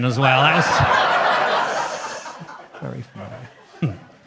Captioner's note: audience laughs